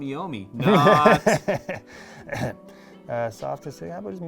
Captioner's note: laughing